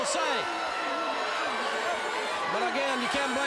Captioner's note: crowd cheering